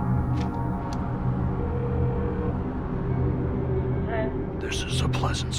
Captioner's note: line ringing